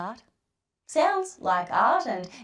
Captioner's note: Robotic voice